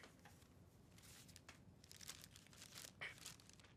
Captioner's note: paper rustling